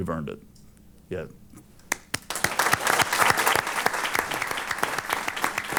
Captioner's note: applause